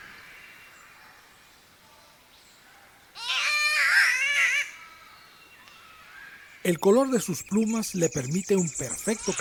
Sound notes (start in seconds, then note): 0.7 catbird call